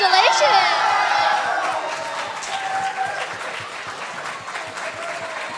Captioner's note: applause